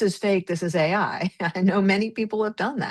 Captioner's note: laughs